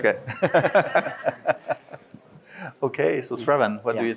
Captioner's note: all laughs